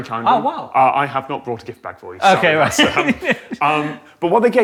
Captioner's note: laughs